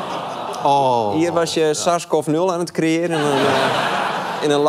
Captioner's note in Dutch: gelach